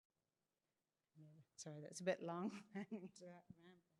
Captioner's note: chuckles